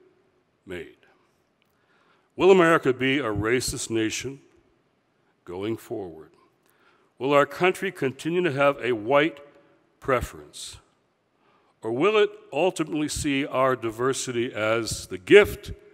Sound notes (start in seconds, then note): none